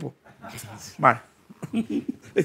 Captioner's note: laughs